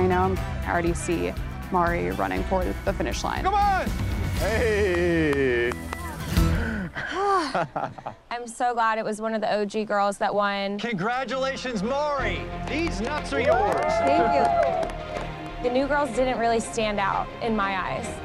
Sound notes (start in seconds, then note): 4.8 clapping; 6.3 sighs; 6.6 laughing; 12.6 cheers and applause